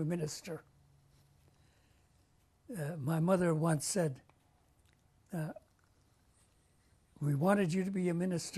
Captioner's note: pauses for 3 seconds